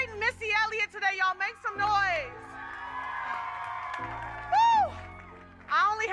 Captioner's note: audience cheers